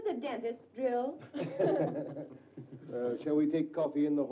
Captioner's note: group chuckles